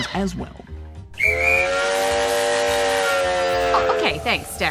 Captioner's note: train whistle